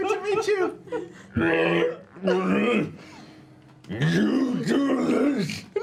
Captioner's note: groaning